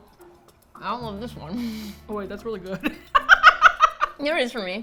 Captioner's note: laughs